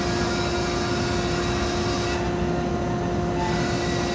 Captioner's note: machine whirring